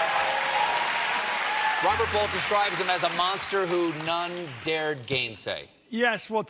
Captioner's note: cheers and applause